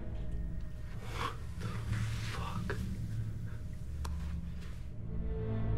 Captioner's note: whispers